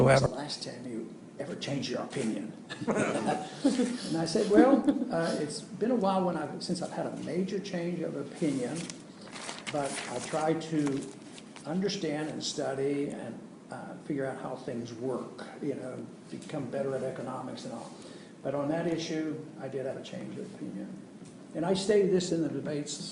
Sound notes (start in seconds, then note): 9.8 laughs